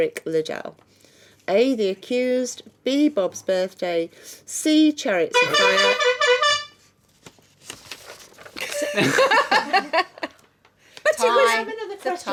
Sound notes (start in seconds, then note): 5.6 buzzing; 8.6 laughing